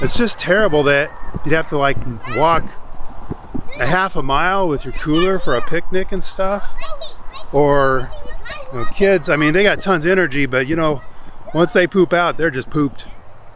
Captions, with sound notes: it's just terrible that you'd have to like walk a half a mile with your cooler for a picnic and stuff. Or you know, kids, (kids chattering) I mean they got tons of energy, but you know, once they poop out, they're just pooped.